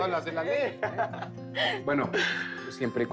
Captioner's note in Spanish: Risas